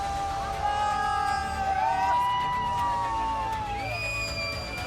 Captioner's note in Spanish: gritan